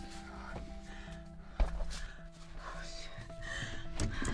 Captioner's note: person breathing